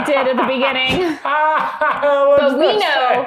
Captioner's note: laughing